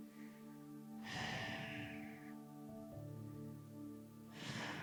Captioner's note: exhaling